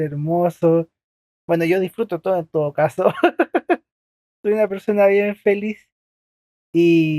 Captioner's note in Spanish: risas